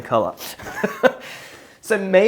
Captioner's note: laughs